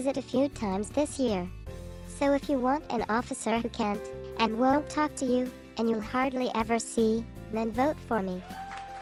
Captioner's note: applause